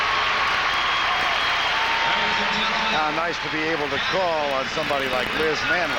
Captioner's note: cheers and applause